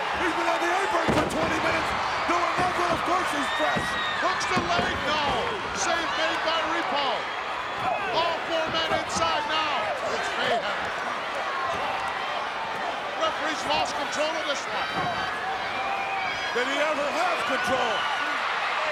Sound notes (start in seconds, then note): 11.0 crowd yelling